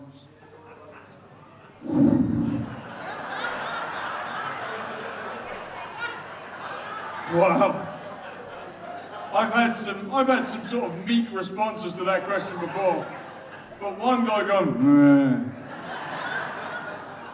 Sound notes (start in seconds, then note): 0.3 audience responds quietly; 1.9 exhales sharply into the microphone; 3.9 audience laughs